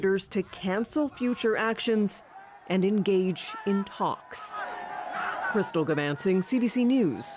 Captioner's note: cheering